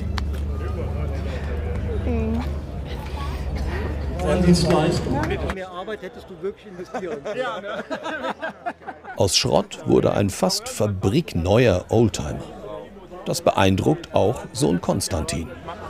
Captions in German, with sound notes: (Stimmengewirr, Lachen) Aus Schrott wurde ein fast "fabrikneuer" Oldtimer. Das beeindruckt auch Sohn Constantin.